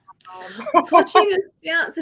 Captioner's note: woman laughing